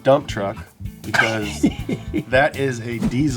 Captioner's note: laughs